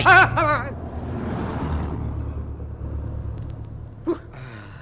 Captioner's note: engine noise